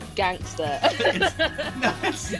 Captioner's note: laughs